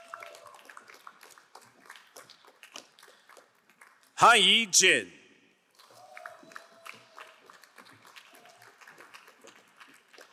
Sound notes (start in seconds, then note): 0.1 crowd applauding; 6.3 crowd applauding